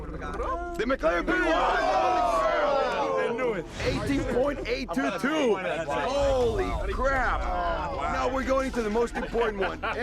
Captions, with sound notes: The McLaren P1! Whoa! [groaning] I knew it. 18.822. Holy crap! [groaning] Now we're going to the most important one. [laughter]